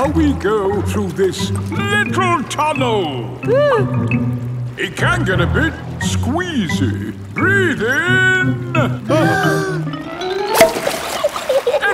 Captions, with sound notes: Now we go through this little tunnel! (WHIMPERS) It can get a bit squeezy! Breath in! (BREATHING IN)